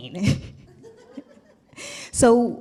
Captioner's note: laughs